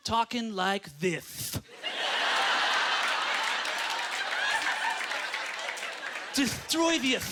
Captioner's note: lisps; audience laughter; lisping